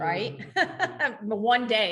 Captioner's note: laughing